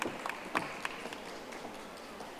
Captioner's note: audience applauding